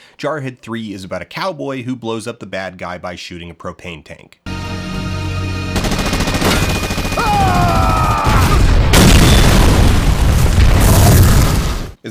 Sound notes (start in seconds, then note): 4.5 intense music; 5.7 gunfire; 7.1 explosion